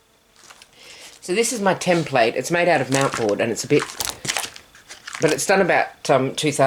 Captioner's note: flapping